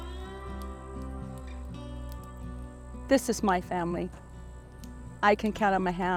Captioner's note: crickets chirping